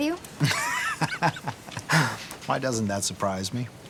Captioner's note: chuckling